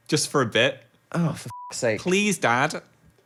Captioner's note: beep